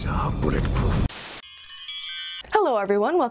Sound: chimes

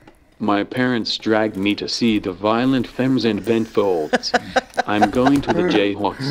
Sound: laughs

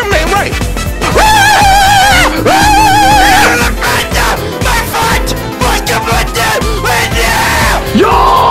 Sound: scream noise

